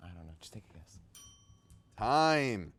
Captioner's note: bell rings